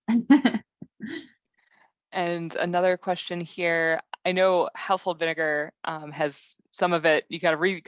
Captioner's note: laugh